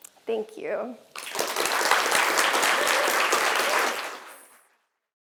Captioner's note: audience applauding